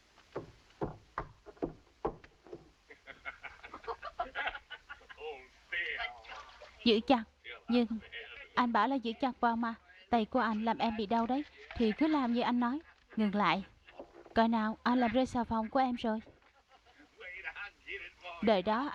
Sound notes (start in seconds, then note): 2.8 man and woman laughing